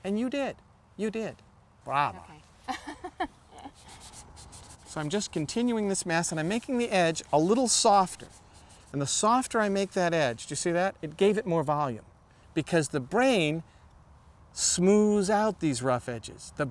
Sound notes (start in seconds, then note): 2.6 laughs